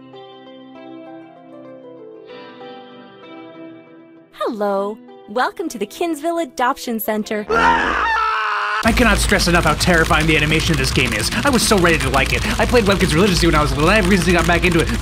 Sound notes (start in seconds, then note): 7.5 fart sound, accompanied by a blood-curling scream; 8.8 frantic keyboard typing sounds